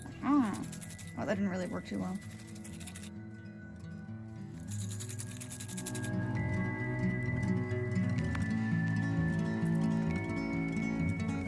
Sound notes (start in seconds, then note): 4.6 more jingling